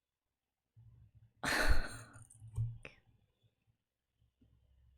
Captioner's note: pained laugh